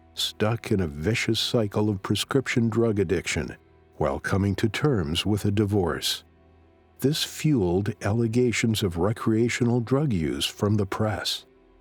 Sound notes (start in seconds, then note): none